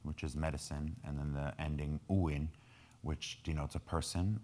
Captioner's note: speaking in foreign language